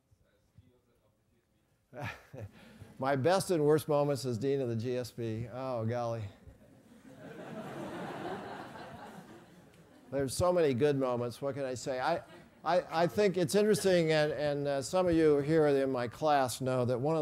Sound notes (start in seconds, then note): 7.1 laugh